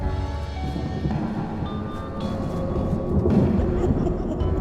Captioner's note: thunder rumbling